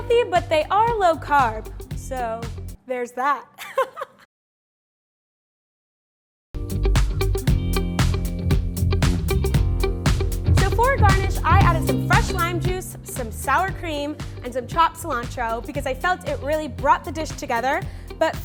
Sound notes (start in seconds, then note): 3.6 laughs; 4.8 funky music